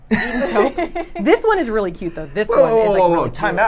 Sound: laughs

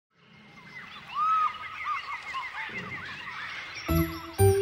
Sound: monkeys chattering

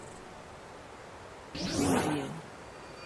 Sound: mysterious portal opens; intense ringing

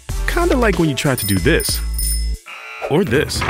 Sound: bell ringing; buzzer buzzing

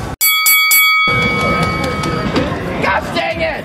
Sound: bell ringing

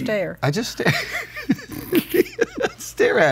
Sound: laughs

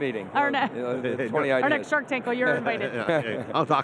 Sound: laughs

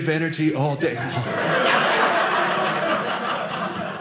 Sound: audience laughing

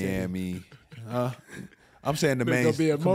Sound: laughing softly

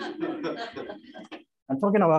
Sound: laughter

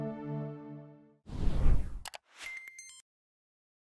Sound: whooshing

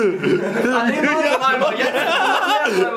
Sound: lachen

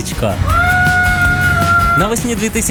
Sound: shouts

